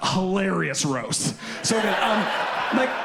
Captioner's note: audience laughs